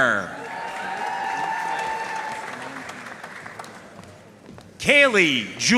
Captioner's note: audience cheering and applauding